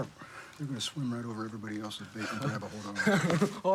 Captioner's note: laughs